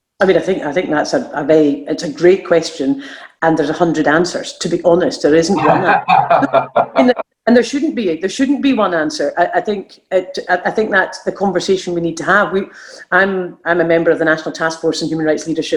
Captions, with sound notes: I think that's a great question and there's a hundred answers, to be honest, there isn't one answer (laughing). And there shouldn't be one answer, I think that's a conversation we need to have. I'm a member of a national taskforce on human rights leadership